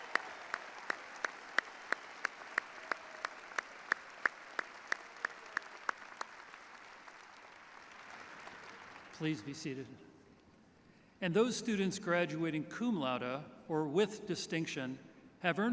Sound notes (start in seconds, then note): 0.0 applause